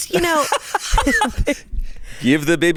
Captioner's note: laughs